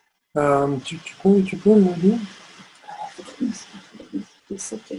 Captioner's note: foreign language